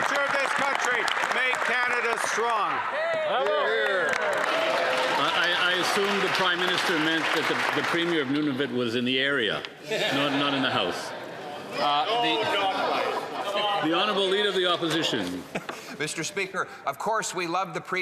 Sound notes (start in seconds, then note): 5.4 cheering and Applause; 15.2 laughter